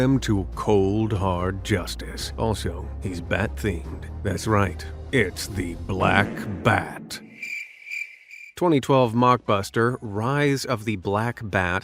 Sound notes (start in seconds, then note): 0.2 movie trailer voice; 7.2 cricket chirps